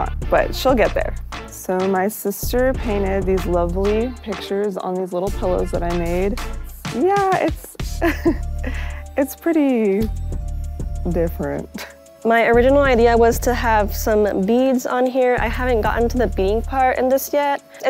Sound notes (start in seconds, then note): 7.9 laughs